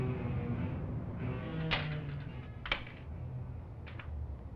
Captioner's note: unlocking door